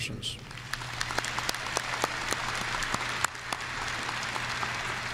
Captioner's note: audience applauding